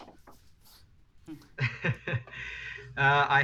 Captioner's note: chuckling